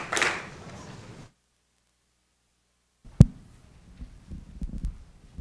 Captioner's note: applause